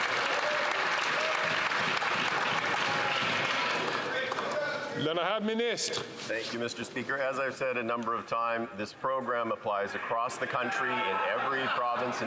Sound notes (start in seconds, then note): 3.7 some Applause